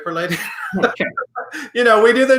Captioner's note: laughs